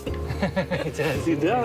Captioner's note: all laughing